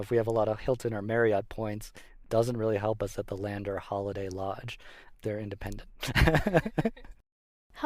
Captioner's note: laughs